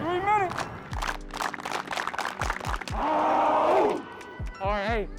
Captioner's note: team claps and clamors